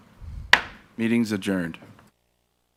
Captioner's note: gavel smacks